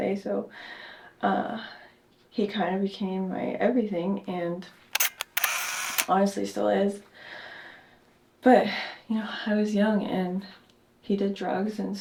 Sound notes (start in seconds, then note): 4.9 camera shutter clicks